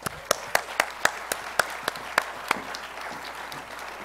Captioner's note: applause